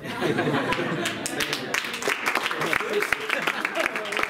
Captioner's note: laughter and applause